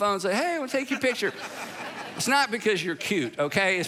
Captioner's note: congregation laughing